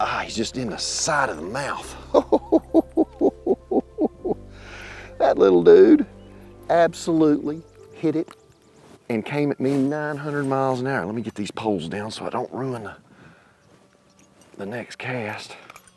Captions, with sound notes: Ah, he's just in a side of the mouth. (laughs) That little dude absolutely hit it and came at me 900 miles an hour. Let me get these poles down so I don't ruin the next cast.